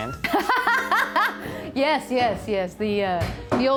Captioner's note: laughs